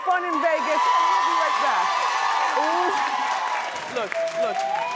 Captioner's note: cheering